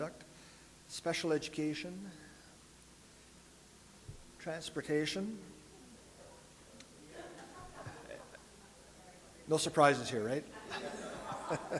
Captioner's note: audience laughter; more laughter